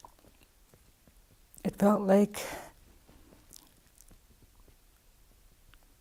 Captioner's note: speaking with deep emotion